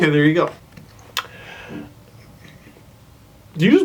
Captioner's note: soft dog noises